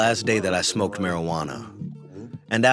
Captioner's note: through translator